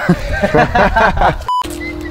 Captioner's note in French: rires